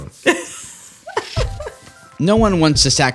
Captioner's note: laughter